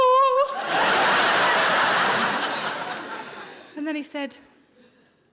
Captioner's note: audience laughs